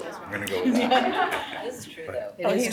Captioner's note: audience laughs